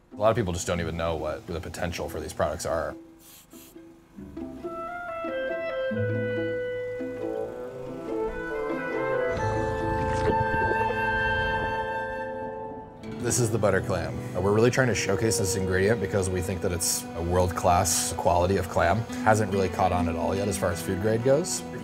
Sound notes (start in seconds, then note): 3.5 gentle classical music; 9.6 water bubbling